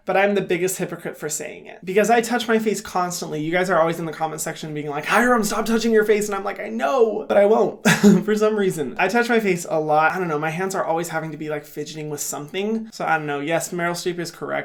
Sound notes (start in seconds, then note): 7.8 laughs